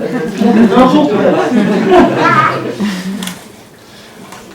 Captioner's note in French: rires